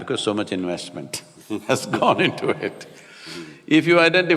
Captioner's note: both laugh